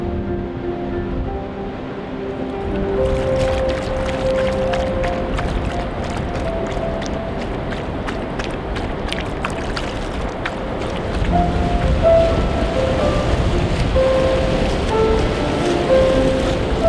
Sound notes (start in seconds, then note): 2.9 water slurping; 11.2 river rushing